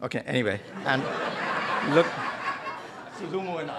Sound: laughter

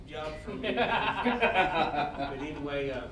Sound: all laughing

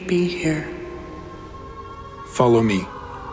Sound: siren alarm

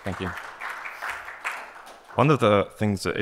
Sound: applause

